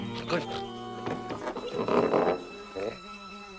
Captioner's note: mutters; doors creak